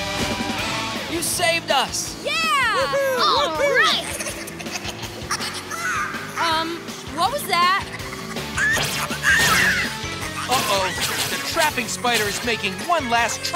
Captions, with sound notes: You saved us. [cheering] [chittering] Um, what was that? [chittering] Uh-oh, the trapping spider is making one last trap,